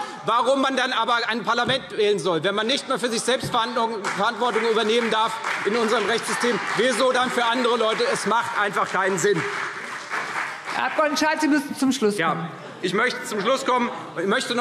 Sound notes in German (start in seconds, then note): 9.9 Beifall CDU